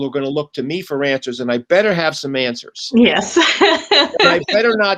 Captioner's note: laughs